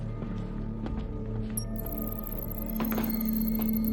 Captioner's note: digital beeping